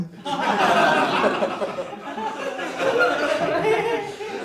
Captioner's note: audience laughing